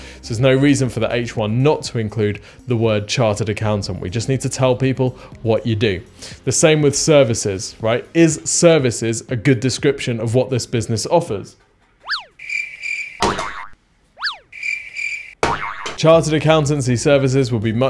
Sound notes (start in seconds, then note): 12.3 chirping cricket